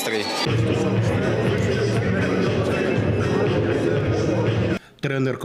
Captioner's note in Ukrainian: шум в залі